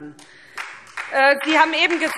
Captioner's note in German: Beifall SPD